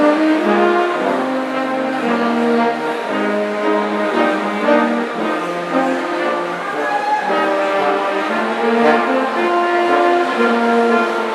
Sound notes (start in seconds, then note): 6.9 audience cheering